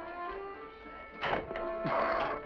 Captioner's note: door opens